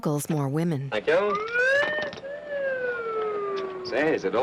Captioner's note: slide whistle rises and falls